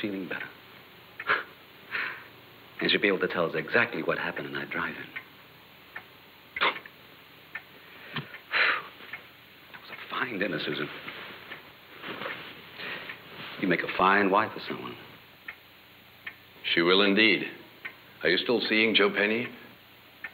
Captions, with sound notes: well, she's feeling better. (sigh) And she'll be able to tell us exactly what happened in that drive-in. (exhales) That was a fine dinner, Susan. You make a fine wife for someone. She will indeed. Are you still seeing Joe Penny?